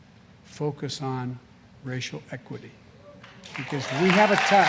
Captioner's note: applause